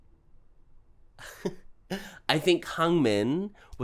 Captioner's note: nervously laughs